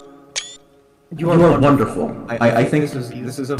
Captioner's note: In TF2's voicechat